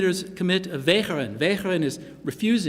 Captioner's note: non-english speech